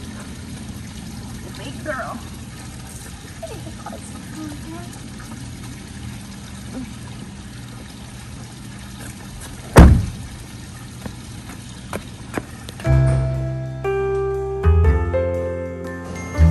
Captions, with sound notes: It's a big girl. Big, nice pumpkin. (door closing) (mellow piano music)